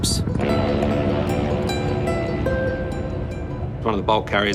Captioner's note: horn blowing